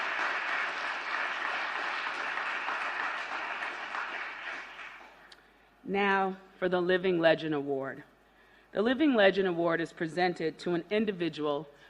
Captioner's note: applause